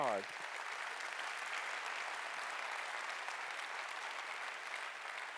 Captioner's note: audience applauding